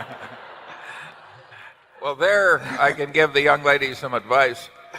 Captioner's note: laughter